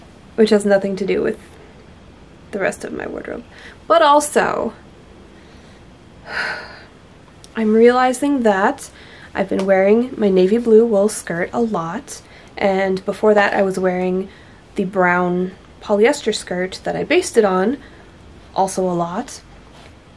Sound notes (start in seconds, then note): 6.2 sigh